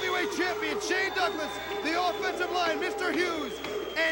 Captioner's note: crowd cheering